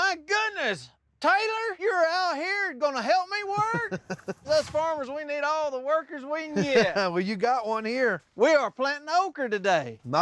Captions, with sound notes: MY GOODNESS! TAYLOR YOU'RE OUT HERE AND GONNA HELP ME WORK? [CHUCKLING] US FARMERS... WE NEED ALL THE WORKERS WE CAN GET! [CHUCKLING] WELL, YOU'VE GOT ONE HERE. WE ARE PLANTING OKRA TODAY!